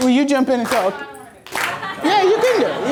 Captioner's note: voiceover; audience laughter